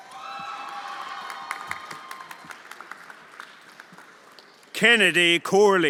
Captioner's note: everyone applauding and cheering